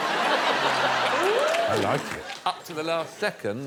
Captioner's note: laughter; laughter continues